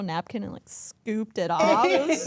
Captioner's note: everyone laughs